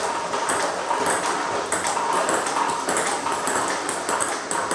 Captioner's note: ball ping pong hitting continues